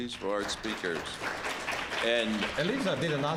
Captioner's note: applause